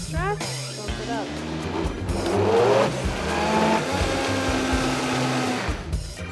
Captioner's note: blender growls